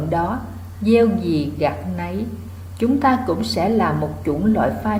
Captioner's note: Vietnamese